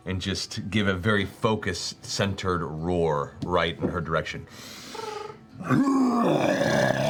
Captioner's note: roars